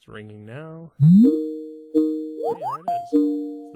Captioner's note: cell phone ringing